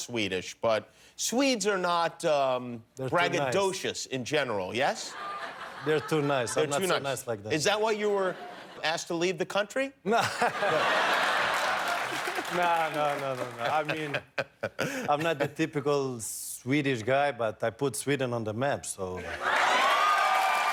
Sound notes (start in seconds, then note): 10.1 laughter